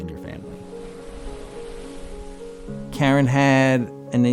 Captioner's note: waves rushing